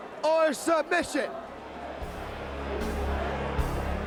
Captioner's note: crowd chatter